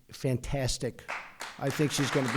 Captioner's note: applause